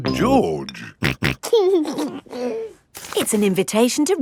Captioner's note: snorting and giggling